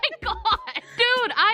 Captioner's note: laughs